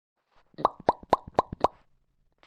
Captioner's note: mouth popping sounds